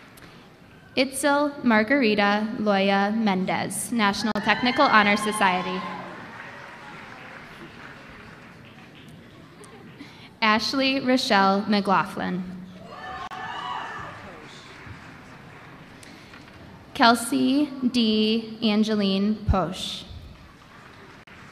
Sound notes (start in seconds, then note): 8.3 applause